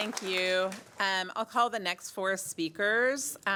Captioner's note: applause